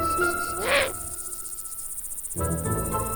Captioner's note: owl hoots